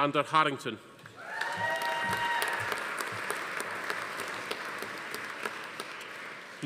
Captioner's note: attendees cheering; audience applauding